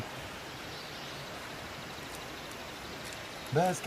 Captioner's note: birds singing